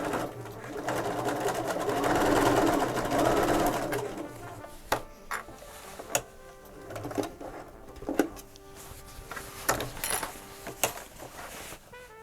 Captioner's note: clips rattling